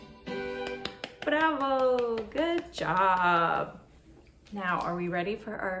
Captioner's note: applause